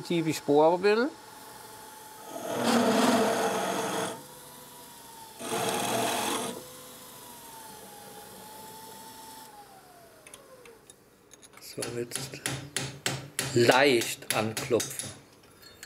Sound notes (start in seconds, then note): 2.4 loud rattling of a machine; 12.1 hammering